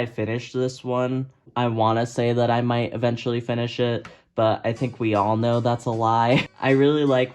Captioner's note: laughs